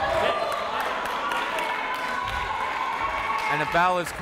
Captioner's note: crowd cheers